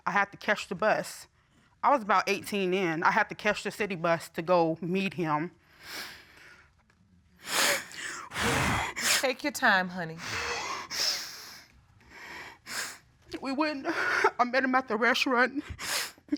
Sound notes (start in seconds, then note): 7.4 sniffles, blows nose; 10.9 sniffling